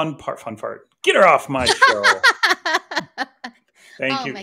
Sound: laughs

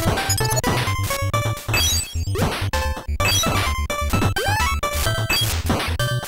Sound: game audio

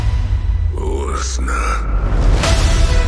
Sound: sinister voice

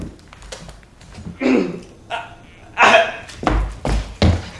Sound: clears throat

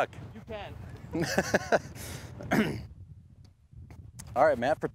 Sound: laughs

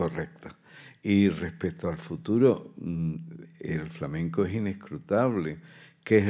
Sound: continues in Spanish

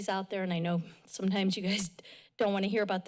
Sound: chuckles

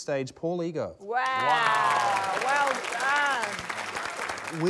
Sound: applause

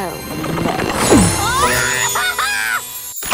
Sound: screaming

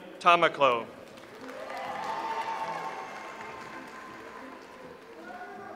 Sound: audience applauds

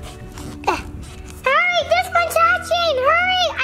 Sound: gasps

